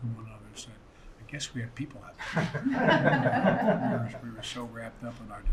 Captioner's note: laughter